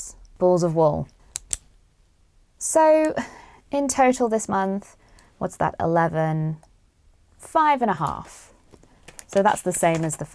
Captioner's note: pen clicks